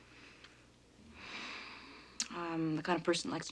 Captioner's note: sighs